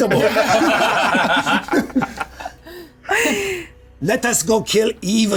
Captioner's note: everyone laughing